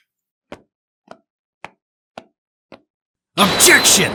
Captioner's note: footsteps